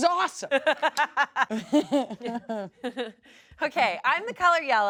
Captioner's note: everyone laughs